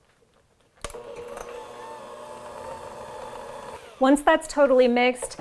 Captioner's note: mixer blending